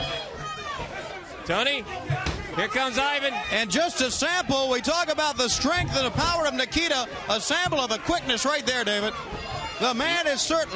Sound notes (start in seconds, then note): 0.0 crowd chatter